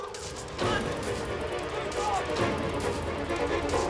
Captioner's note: yelling